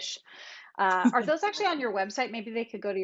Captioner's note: chuckles